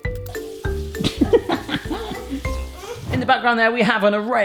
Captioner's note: laughs